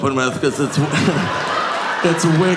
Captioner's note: audience laughing